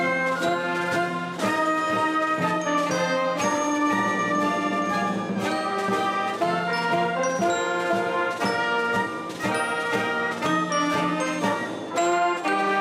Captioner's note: applause